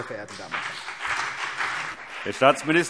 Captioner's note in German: Beifall CDU und BÜNDNIS 90/DIE GRÜNEN